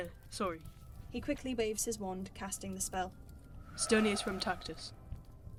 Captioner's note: swishy spell swoop